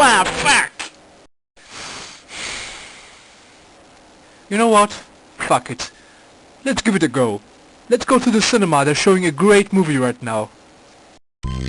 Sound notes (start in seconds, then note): 1.8 sighs